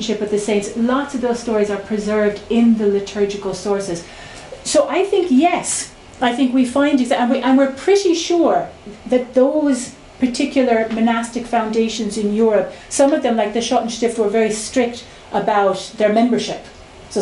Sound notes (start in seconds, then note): none